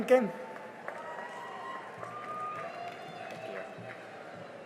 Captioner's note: cheering and applause